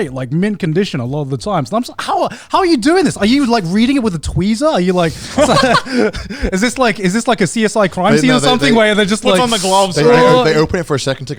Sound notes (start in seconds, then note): 4.9 all laughing